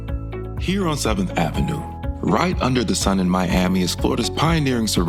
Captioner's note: voiceover